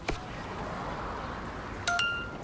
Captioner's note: traffic noise; phone chime